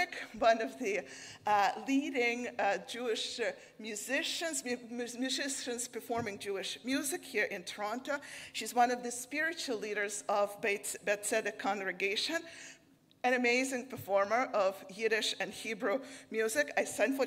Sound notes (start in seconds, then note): none